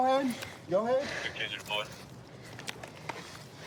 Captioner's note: radio cahtter